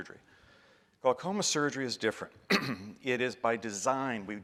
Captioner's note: clears throat